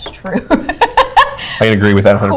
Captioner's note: laughs